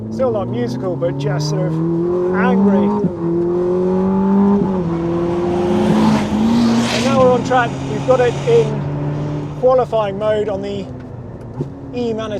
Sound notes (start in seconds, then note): 4.1 engine rumbles